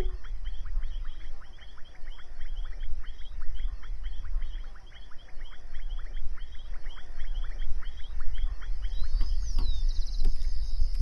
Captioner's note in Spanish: Sonido ambiente campo